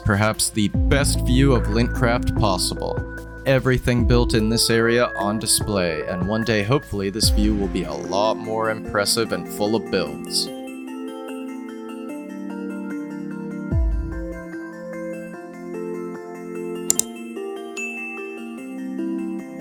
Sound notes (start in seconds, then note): 16.9 click, ding